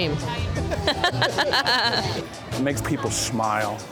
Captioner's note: laughter